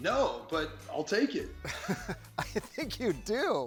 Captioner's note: chuckles